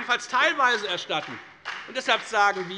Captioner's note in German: Beifall bei der FDP